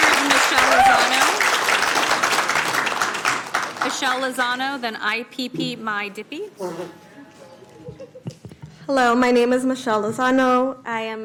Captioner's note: applause